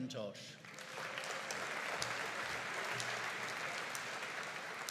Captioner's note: audience applauding